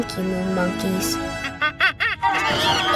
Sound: chattering

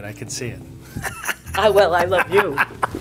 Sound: laughing

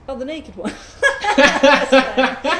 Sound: both laugh

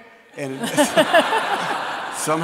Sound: audience laughs

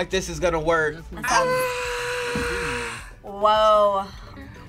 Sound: shrieking

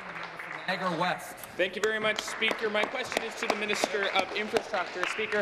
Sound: applause

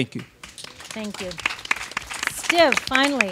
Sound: audience claps

